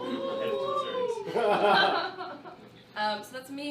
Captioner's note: laughter